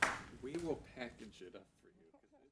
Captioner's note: applause